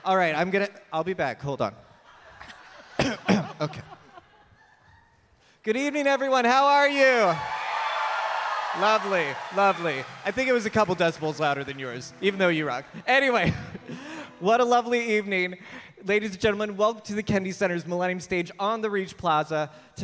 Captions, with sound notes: All right, I'm gonna, I'll be back. Hold on. Okay. Good evening everyone, how are you? [audience cheering] Lovely, lovely. I think it was a couple decibels louder than yours even though you rock. Anyway, what a lovely evening. Ladies gentlemen, welcome to the Kennedy Center's Millennium Stage on the Reach Plaza.